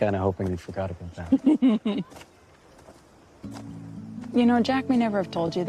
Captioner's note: laughs